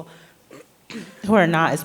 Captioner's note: clears throat